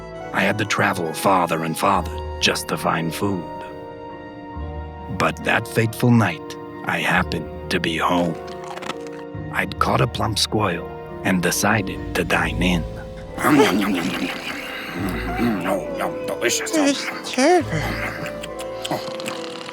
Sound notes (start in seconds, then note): 13.0 gasps in fright